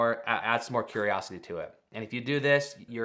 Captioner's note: screen whooshing